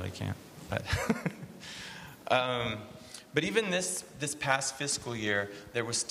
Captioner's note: laughs